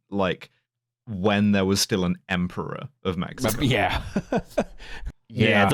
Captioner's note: laughs